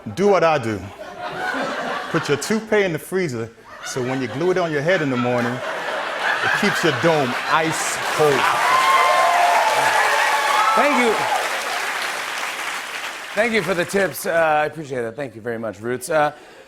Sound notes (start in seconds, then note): 9.0 cheers and applause